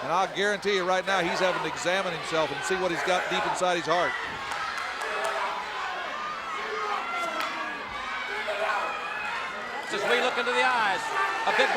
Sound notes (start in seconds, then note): 5.2 fans shouting